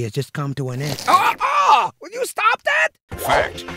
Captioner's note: shouts; voiceover